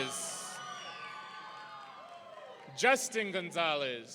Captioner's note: audience cheering